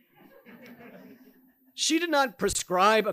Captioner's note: audience members chuckling